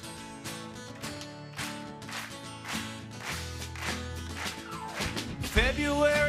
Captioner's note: audience clapping